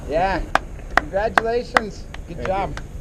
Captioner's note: clapping